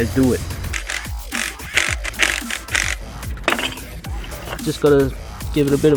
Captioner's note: drill creaking